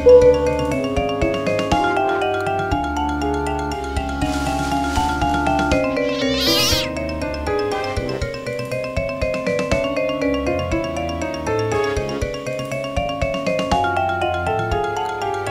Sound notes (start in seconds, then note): 4.0 noise and cat in the background